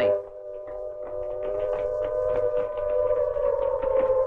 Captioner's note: footsteps tapping